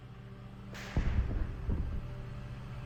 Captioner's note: artillery blast